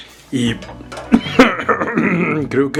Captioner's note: coughs with delicious Salsa Aroma